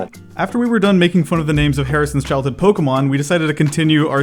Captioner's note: voiceover